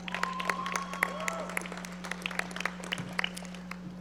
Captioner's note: audience applauding